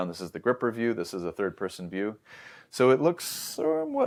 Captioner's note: inhales